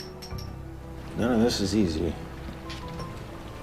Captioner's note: voiceover